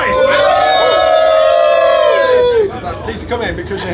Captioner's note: all applauding